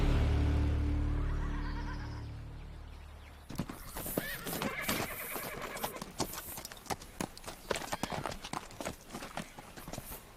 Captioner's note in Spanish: Relinchos